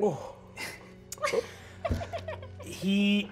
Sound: laughing

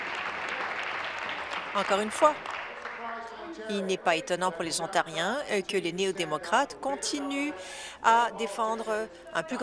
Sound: applause

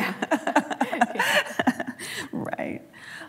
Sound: laughing

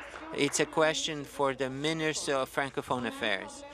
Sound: speaking in French

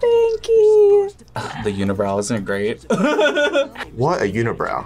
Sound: laughs

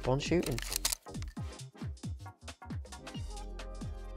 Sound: shutter clicking

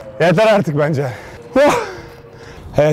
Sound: exhaling

